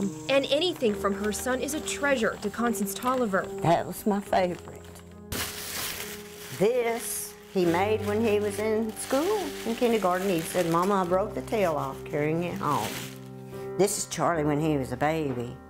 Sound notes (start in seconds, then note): 4.7 paper crinkling